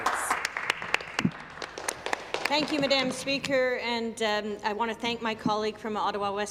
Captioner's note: applause